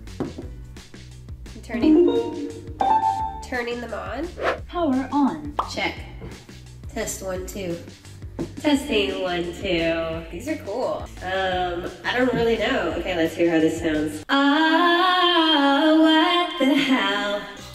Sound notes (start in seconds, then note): 0.1 taps table; 1.8 piano sounds; 4.8 microphone voice